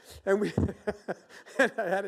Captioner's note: laughs